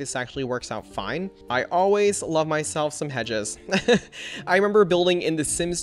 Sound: laughs

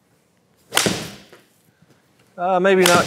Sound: golf ball clanks

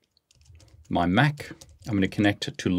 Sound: keyboard keys clicking

